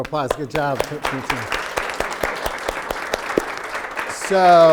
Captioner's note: applause